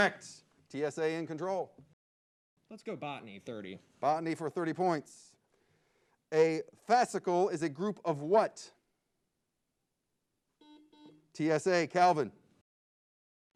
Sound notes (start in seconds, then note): 10.6 buzzer beeps